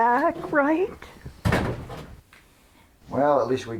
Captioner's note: door shuts